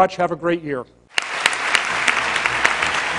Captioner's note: applause; classical music playing